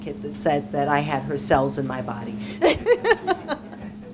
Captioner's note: laughing